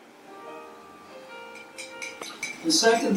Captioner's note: quiet music; spoon clanging